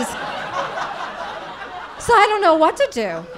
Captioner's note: audience laughing